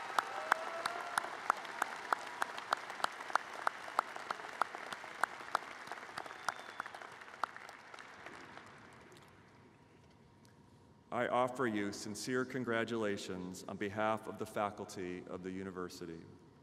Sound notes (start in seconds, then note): 0.0 applause